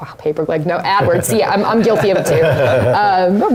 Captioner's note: laugh